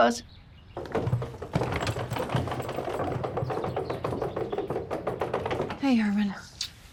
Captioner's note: rolling luggage; blows a kiss